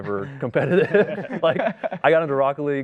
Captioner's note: laughs